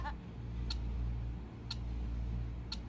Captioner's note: clock ticking noises